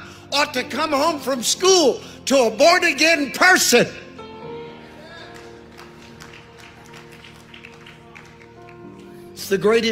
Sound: audience claps

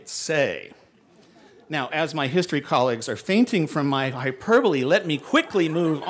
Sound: laughter

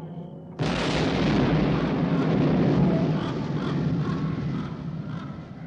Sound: thunder rolling; lighting striking

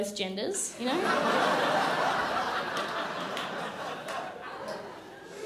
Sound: crowd laughs

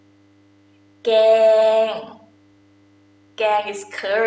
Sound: talking in foreign language

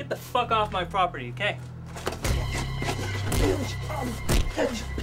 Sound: body thuds

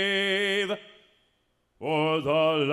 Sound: none

